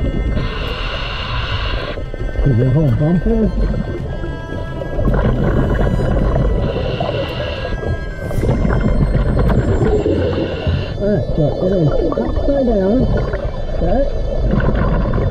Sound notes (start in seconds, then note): 0.7 breaths in; 5.3 water bubbles; 8.3 intense music